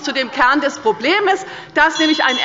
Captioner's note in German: Anhaltende Unruhe – Glockenzeichen des Präsidenten